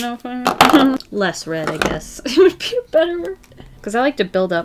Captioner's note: laughs